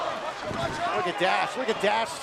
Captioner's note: fans chanting